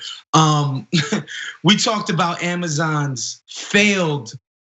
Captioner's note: laugh